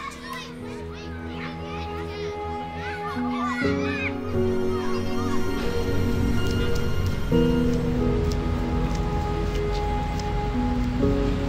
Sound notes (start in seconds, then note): 0.2 relaxing piano music; 2.4 children chattering; 6.0 footsteps clicking on gravel